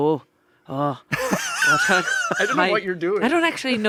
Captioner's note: everyone laughs